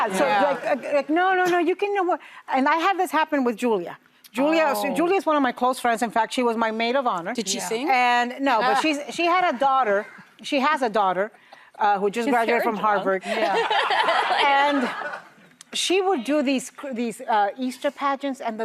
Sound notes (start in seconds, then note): 13.3 audience laughs